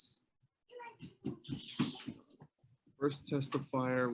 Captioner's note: kid talking